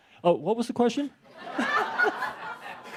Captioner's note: laughter